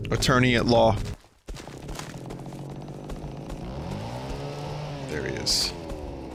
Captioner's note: chainsaw revs in the distance